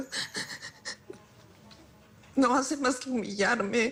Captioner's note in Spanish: Sollozos